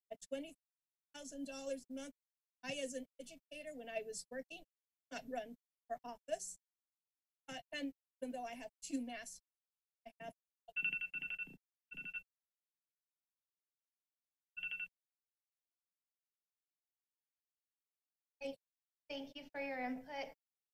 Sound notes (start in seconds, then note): 10.8 buzzer ringing